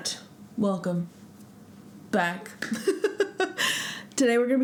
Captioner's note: laugh